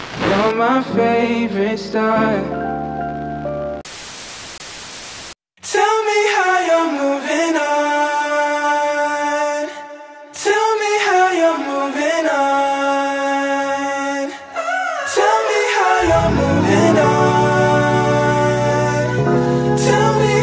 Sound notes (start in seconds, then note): 3.9 TV buzzing